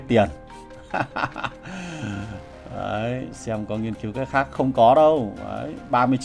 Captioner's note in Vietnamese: tiếng cười